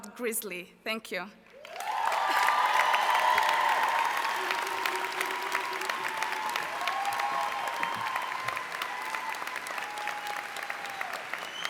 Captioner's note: cheers